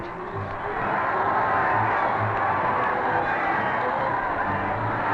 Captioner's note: crowd cheering